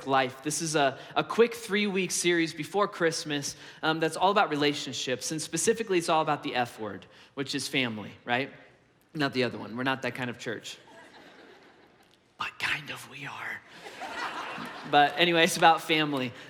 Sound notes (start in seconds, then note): 10.9 congregation laughs; 13.8 congregation laughs